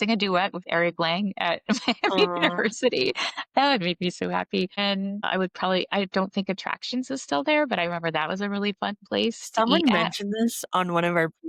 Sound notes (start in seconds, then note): 1.7 laughter